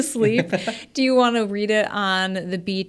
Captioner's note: laughs